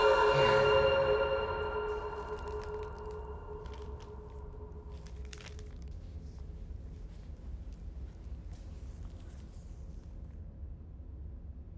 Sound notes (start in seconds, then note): 1.5 music fades; 2.1 package rustling